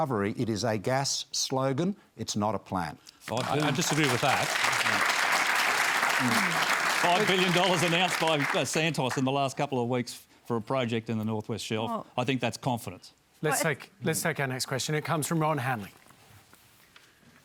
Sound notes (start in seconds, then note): 3.2 applause